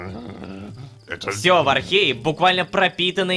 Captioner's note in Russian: ворчит